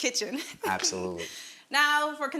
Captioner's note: laughing